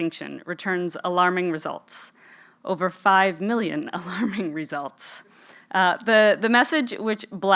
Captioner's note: laugh